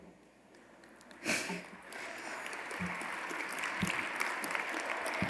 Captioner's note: audience applauding